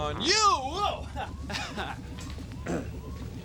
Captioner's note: chuckles; clears throat